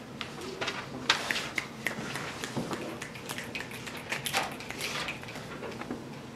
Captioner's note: fingers snapping